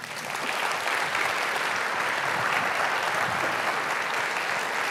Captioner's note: audience applauds